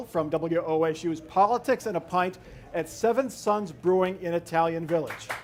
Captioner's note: applause